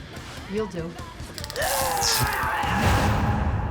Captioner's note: grunts